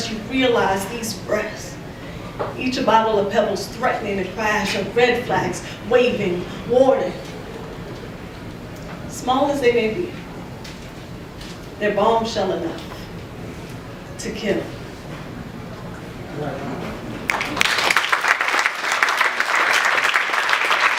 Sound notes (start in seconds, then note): 17.2 applause